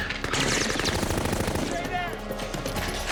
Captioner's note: gunfire resumes